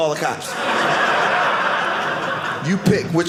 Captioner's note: audience laughing